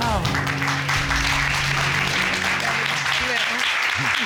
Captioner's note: applause